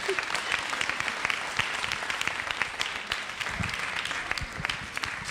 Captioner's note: audience applauds